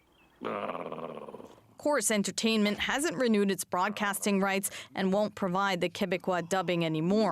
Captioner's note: speaking French